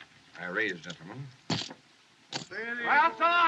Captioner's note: chips Clatter